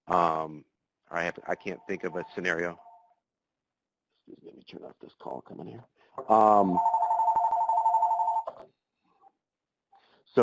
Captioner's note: phone ringing